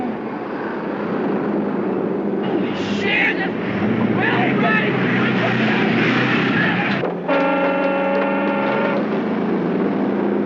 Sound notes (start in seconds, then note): 4.5 yelling; 7.2 trucks honking horns